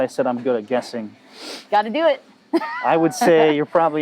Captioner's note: laughing